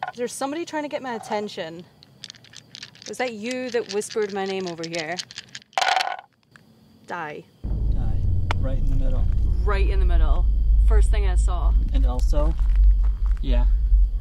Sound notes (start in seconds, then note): 1.9 dice rattling; 5.8 dice thumping